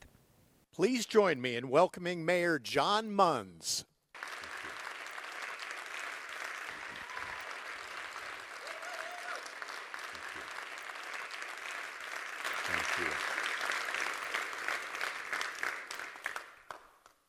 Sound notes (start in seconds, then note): 0.1 voiceover from off stage; 4.1 crowd applause